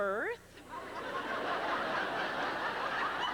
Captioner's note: laughter